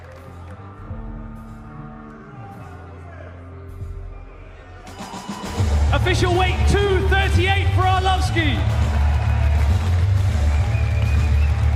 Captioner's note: cheers and applause